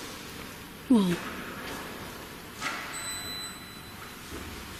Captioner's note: thumps